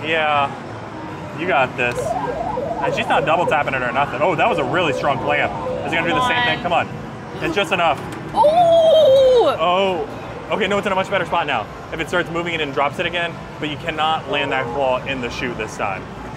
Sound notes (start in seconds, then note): 2.0 game being played; 8.4 exclaiming in surprise